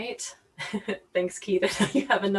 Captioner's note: laughs